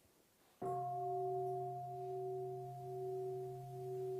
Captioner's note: bell